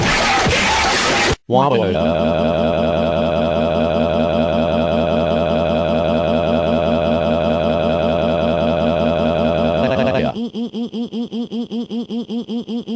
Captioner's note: crying